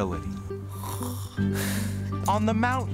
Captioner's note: snoring